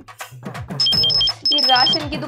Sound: phone Ringing

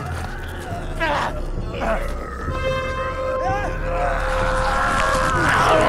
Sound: grunting; shouting

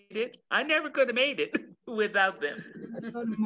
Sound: chuckles

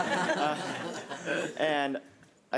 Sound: all laugh

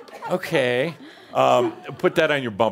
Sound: laughs loudly and audience laughter

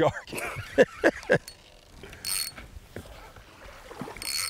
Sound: excited laughing

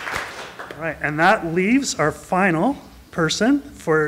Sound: applause

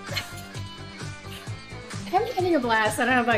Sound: chuckles

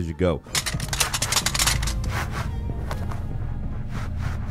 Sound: metal rattles

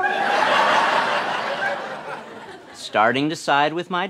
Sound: audience laughter

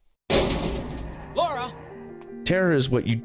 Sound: slam

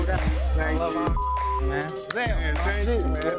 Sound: beep

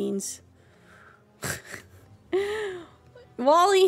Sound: distressed Laughter

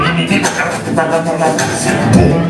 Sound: tuvan throat singing; vocal trombone; tuvan throat singing

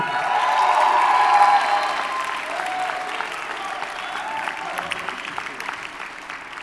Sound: audience cheers and applauds

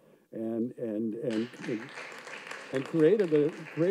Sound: audience claps

